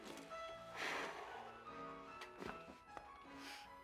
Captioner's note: sighs deeply